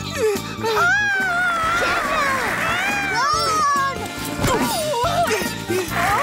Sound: yells

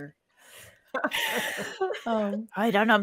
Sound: all laughing

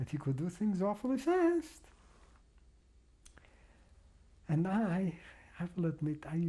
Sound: pauses for 3 seconds

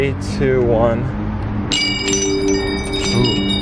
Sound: bells ringing

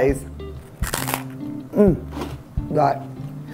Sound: crunch

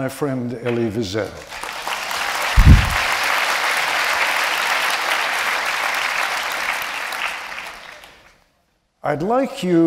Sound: applause

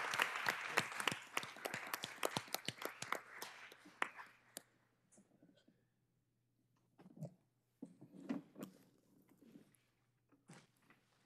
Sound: applause

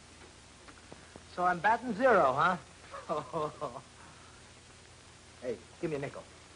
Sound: laughs

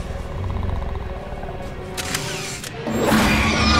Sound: camera shutter clicks; screeches

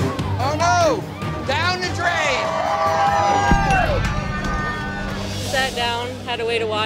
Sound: patrons protesting

